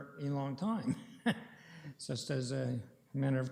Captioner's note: chuckling